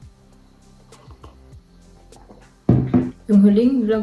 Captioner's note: sipping coffee😝